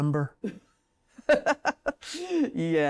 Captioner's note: laughs